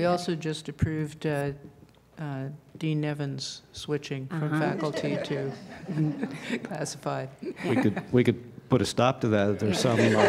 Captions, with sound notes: »: We also just approved Dean Nevins switching from faculty to classified. (Laughter)